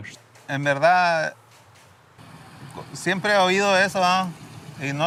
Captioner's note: speaking in Spanish